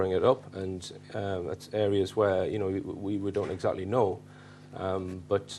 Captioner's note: stammers